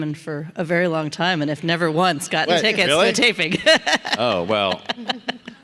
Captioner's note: laughs